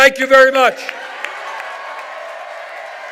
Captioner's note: cheers and applause